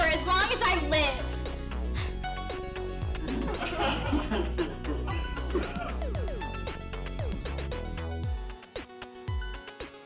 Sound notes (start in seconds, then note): 3.2 giggles - ahhhhhh; 6.2 techno music